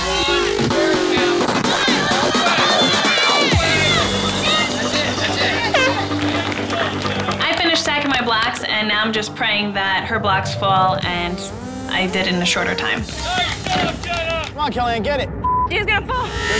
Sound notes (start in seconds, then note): 5.6 air horn blows; 15.4 beep